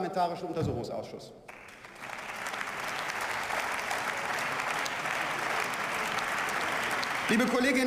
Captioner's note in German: Beifall